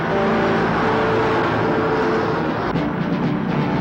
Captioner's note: truck whizzes